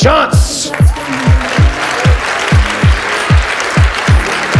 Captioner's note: audience applauds